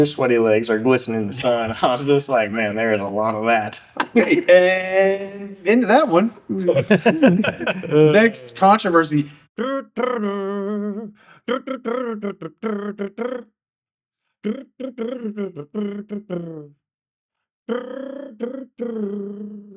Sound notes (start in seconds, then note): 10.0 humming